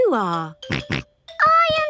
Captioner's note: snorts